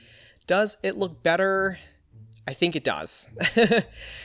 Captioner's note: laughs